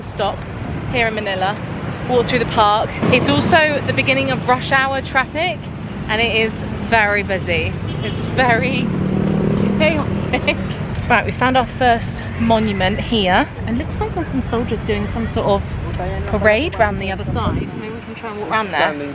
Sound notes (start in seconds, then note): 9.6 laughs